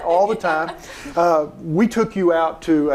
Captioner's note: laughing